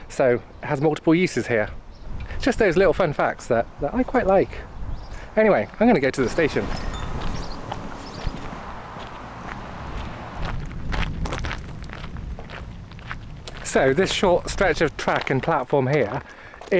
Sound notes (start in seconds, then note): 7.7 footsteps